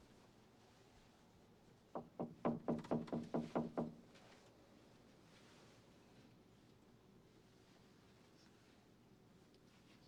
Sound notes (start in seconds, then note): 1.4 knock knock knock